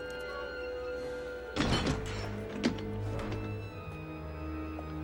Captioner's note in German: Tür schließt